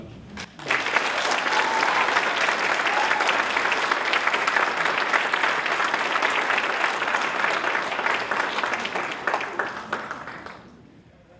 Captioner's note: applause